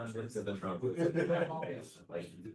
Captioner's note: laughter